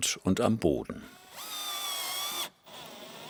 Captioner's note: drilling noises